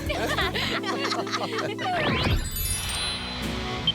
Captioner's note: laughing